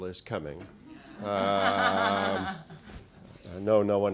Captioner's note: laughter